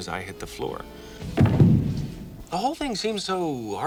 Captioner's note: Steve thudding